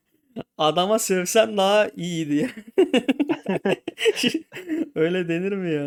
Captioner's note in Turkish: kahkaha